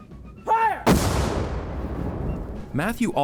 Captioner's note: cannon fires